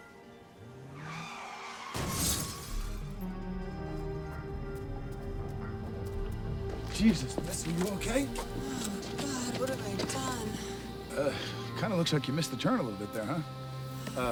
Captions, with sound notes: (tires squealing) (car crashes) Jesus, miss are you okay? - Oh god, what have I done? - Uh, kinda looks like you missed the turn a little bit there, huh?